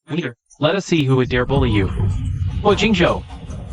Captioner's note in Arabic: بنبرة تحدي ووعيد